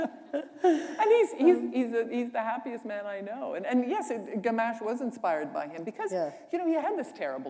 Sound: laughter

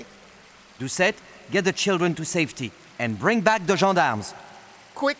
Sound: water rushing

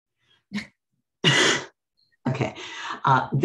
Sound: pair laughs

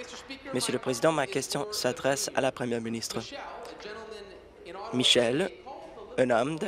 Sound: applause

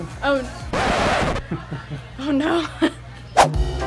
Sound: record scratches

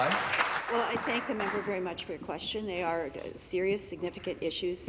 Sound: applause

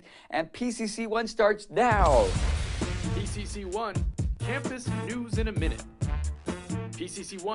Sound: boom

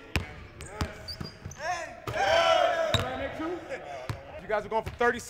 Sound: excited cheers

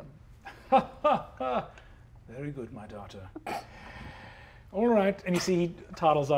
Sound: laughs warmly

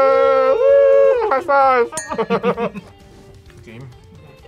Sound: both laugh

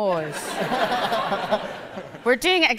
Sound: audience laughs

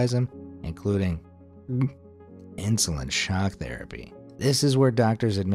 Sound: gulping

